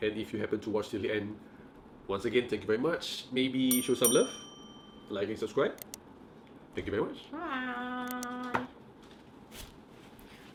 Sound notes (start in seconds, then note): 3.7 bell ringing; 5.8 computer mouse clicking